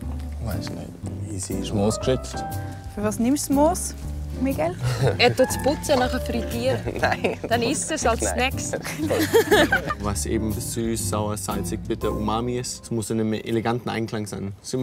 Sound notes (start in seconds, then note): 6.5 laughs